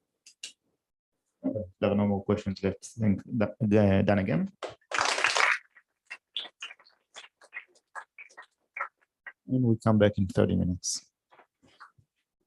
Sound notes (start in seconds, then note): 4.9 applause